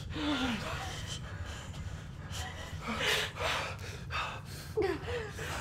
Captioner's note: whimpering; Christine sobbing; Jim panting